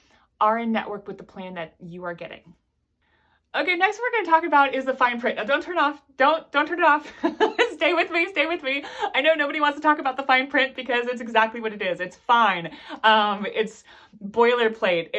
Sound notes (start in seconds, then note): 7.1 laughs